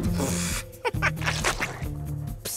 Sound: laughing

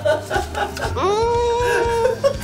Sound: laughing; moaning

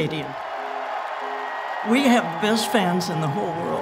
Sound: cheers

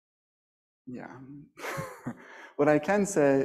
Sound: laughs

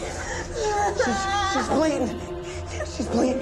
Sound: Bebe cries

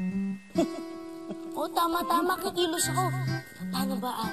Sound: chuckles

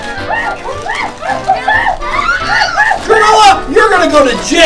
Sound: gorilla sounds

